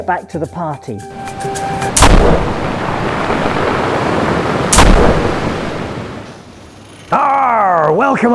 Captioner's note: sound of waves and the firing of ship's cannons